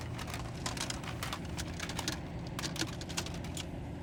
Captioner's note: tape rustling